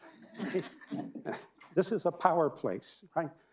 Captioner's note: audience laughing